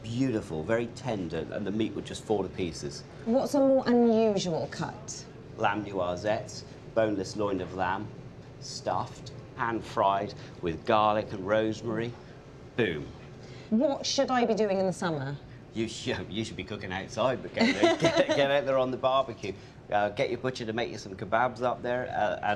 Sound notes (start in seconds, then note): 16.4 laughs